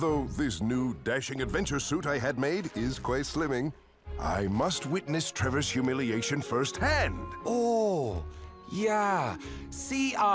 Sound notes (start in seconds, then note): none